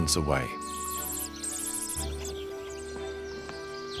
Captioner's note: bird tweeting